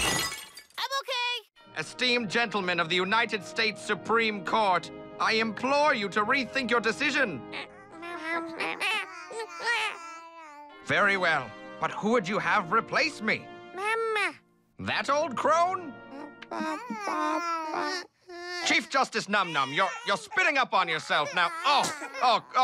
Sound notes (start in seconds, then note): 0.2 crash; 8.6 baby talk